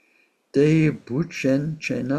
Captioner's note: tibetan